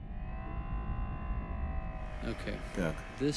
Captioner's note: whirring